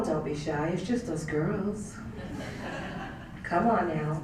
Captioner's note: laugh